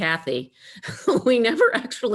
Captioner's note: laughing